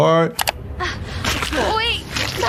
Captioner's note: mouse clicking